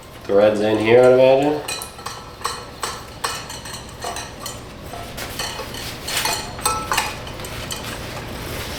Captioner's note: metal Clanking